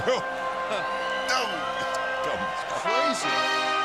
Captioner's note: crowd cheering